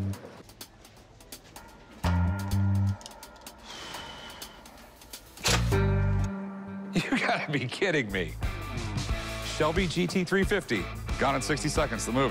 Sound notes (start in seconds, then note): 1.5 tense music playing; 3.0 sighs